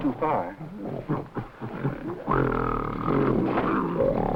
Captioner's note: gorilla grunting